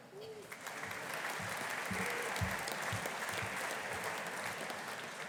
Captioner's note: audience applauding